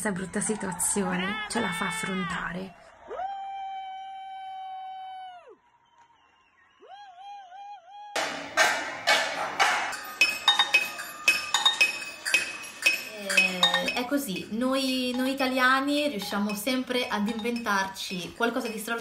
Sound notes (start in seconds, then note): 8.4 upbeat music; 14.2 speaking foreign language